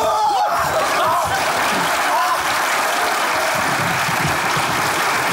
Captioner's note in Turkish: Alkış sesleri